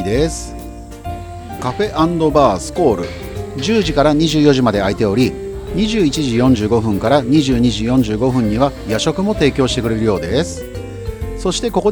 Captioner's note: squall